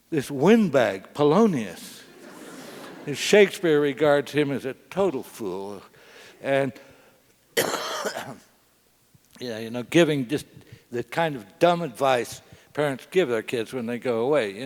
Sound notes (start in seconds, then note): 2.1 laugh; 7.5 cough